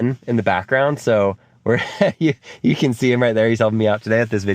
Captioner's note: laughs